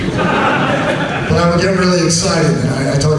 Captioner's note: audience laughs